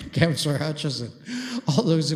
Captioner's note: laughs